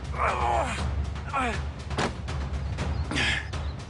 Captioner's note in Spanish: Quejidos